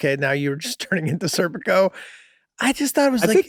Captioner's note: Charlie laughing amusingly